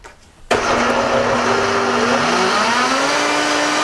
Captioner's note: whirring